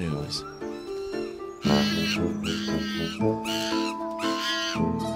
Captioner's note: screeching continues